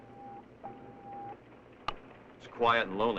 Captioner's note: beeping